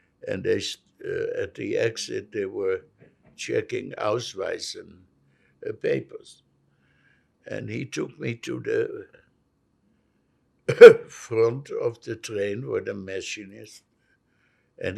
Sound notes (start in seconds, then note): 4.5 german; 10.7 coughing